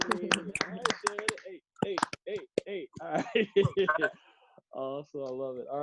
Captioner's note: applause